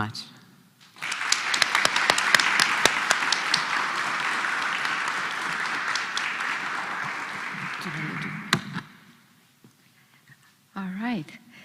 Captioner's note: applause